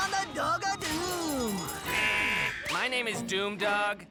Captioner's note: buzzer noise